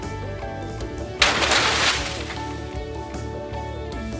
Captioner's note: loud crash and heavy rustling